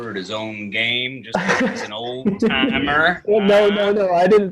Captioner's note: chuckles